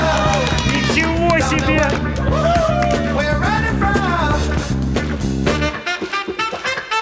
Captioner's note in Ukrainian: оплески